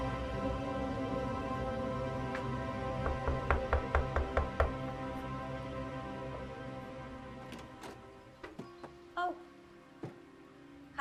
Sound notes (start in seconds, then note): 2.8 knuckles rapping; 7.4 door clicking